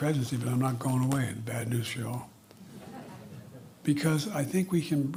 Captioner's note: laughter